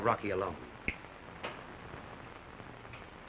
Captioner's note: snaps fingers